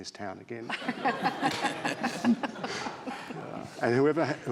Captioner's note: all laughing